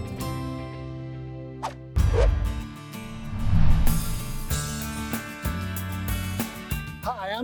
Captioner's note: whoosh